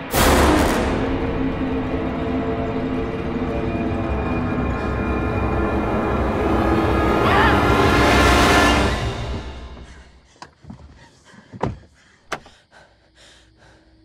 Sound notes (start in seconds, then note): 0.1 suspenseful music; 10.7 scared breathing; 12.2 locks door